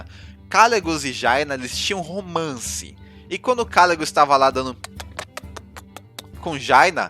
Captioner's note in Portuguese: sons de beijo